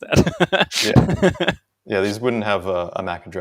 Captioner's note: laughs